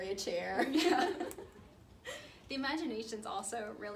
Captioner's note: laughs